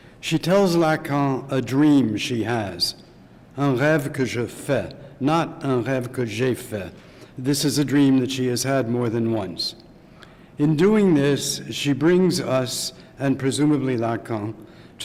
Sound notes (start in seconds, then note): 3.6 speaking french